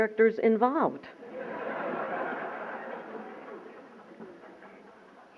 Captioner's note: laughter